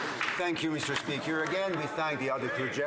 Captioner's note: some Applause